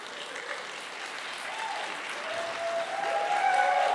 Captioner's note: applause